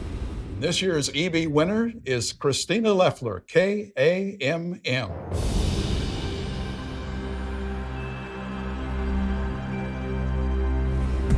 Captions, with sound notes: This year's EB Winner is Christina Lefler, KAMM. (wind whooshing) (soft music)